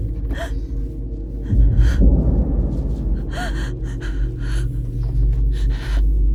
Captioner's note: eerie music; Sarah gasps